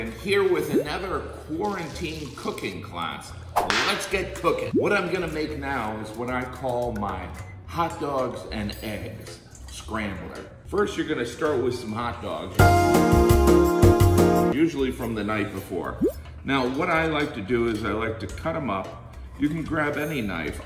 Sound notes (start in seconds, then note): 3.6 whip cracking; 12.6 upbeat music